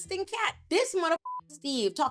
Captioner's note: beep